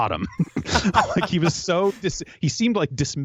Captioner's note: laughs